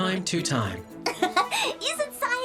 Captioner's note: laughs